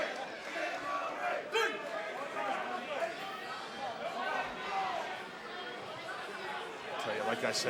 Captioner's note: fans chanting